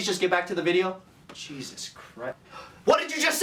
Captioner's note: gasps